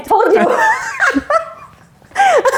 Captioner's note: both laugh